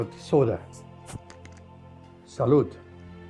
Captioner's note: bottle hisses